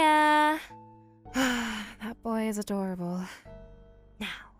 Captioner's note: sigh